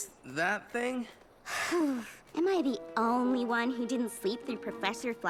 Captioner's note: sigh